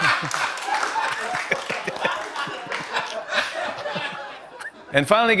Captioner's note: laughter and applause; laughter